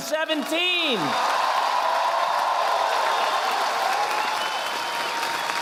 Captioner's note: audience applauding